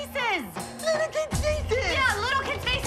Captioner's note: mockingly